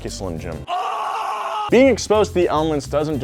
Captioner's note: yelling